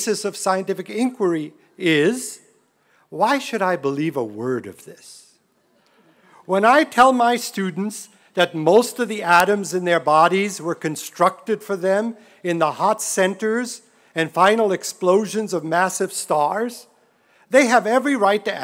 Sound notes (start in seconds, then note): none